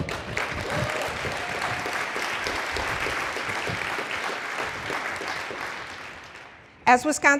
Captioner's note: applause